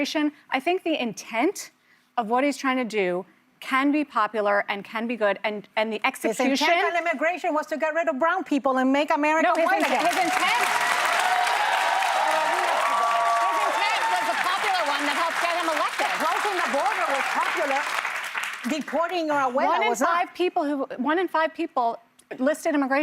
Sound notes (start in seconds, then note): 15.4 applause